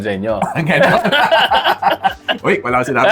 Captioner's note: laughs